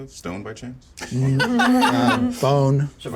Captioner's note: laughs